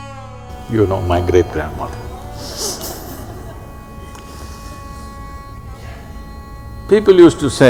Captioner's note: laughs